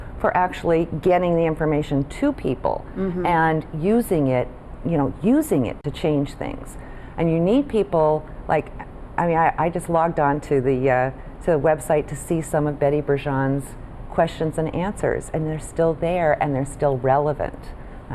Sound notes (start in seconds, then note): none